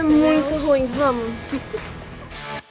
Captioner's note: laughing